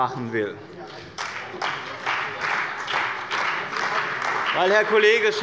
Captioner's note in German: Beifall bei dem BÜNDNIS 90/DIE GRÜNEN und der CDU